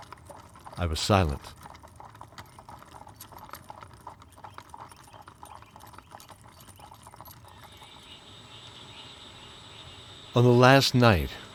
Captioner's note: campfire voices in the background with a stream